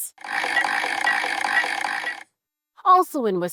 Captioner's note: machine whirring